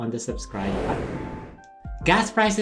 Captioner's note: whooshing